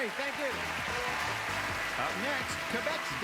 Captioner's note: applause